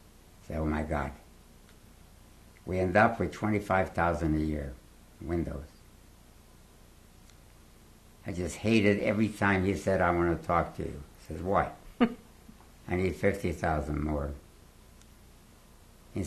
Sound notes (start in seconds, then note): 5.6 pauses for 3 seconds; 12.0 laughs